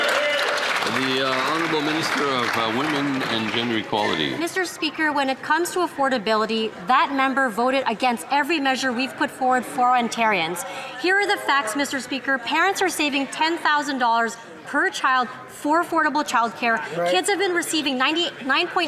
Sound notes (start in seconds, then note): 4.5 some Applause